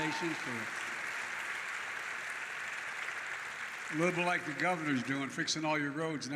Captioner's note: applause